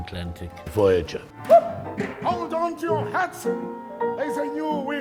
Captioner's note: performer exclaims